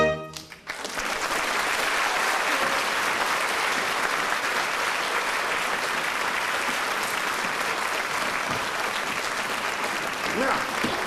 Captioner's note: applause